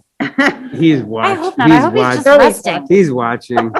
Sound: laughing

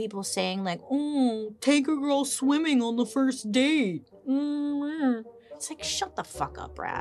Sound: murmurs

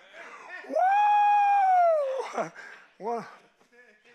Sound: pastor shouting

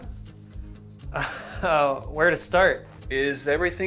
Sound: laughs

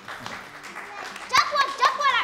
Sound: applause

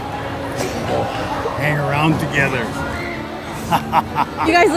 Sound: evil laughing

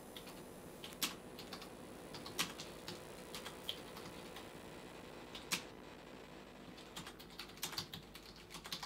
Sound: keyboard tapping, feedback

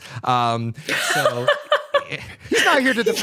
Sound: laughs

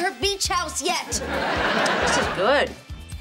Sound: laughing

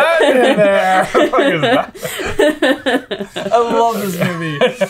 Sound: laughter

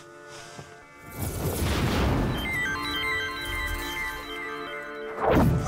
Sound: synthesized whooshing

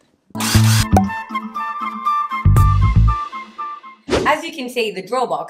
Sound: drill noise; pop; whoosh

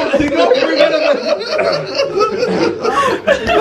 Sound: laughing

